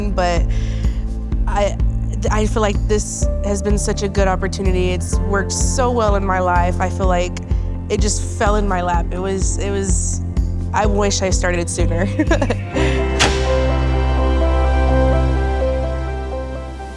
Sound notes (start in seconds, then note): 12.1 chuckling; 13.2 switch snapping; 14.5 soft music; 16.7 logo swishing